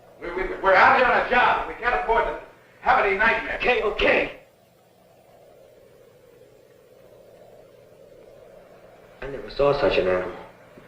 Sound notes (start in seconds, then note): none